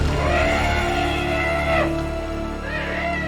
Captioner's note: Apatosaurus shrieks